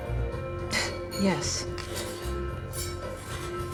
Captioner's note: scoffs